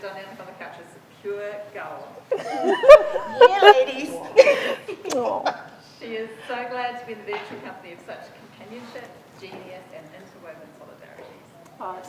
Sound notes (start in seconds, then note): 2.2 group laughing